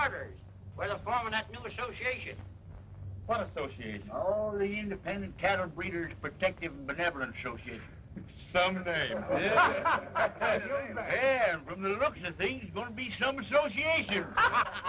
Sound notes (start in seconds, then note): 9.1 laughter